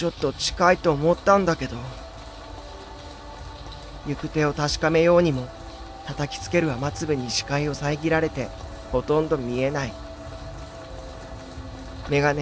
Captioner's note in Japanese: 心細いbgm; 雨音：ザァー･･･